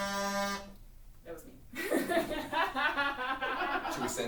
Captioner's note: laughter